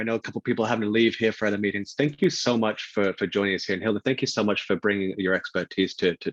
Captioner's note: chuckles